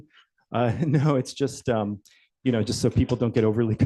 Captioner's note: chuckles